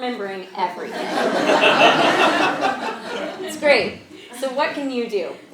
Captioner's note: laugh